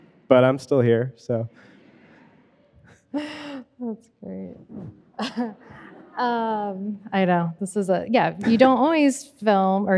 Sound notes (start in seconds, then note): 5.1 chuckling; 5.2 audience chuckling